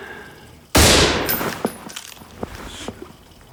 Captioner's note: booming